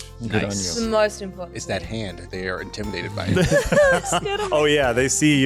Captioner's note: laughter